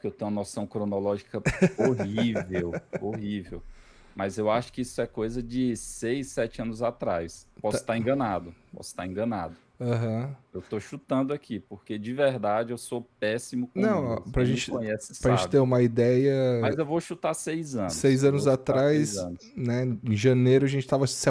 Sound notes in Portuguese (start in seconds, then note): 1.4 risadas